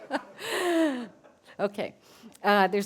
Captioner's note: laughter